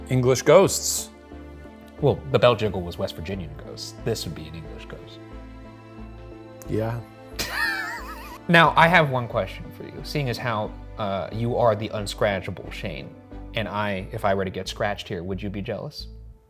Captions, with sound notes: - English ghosts. - Well the bell jiggle was West Virginian ghosts. This would be an English ghost. - Yeah. - (laughs) Now I have one question for you. Seeing as how you are the unscratchable Shane, and if I were to get scratched here, would you be jealous?